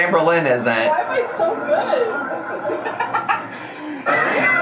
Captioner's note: laughing